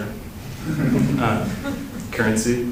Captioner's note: laughter